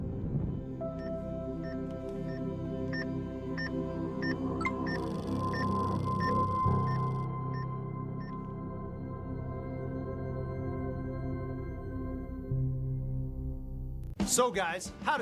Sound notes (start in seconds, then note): 4.6 EKG machine beeping; 4.6 electronic chime; 8.1 EKG machine beeping